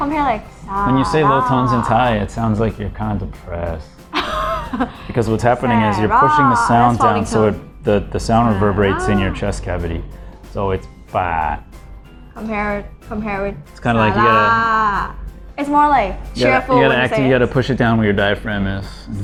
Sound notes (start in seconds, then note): 4.0 laughing